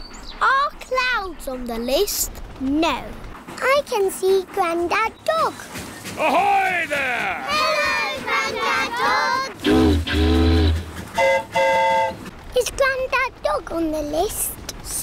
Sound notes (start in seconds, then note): 11.1 boat horn honks; 11.1 train horn toots